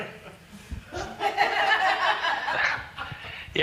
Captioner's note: laughter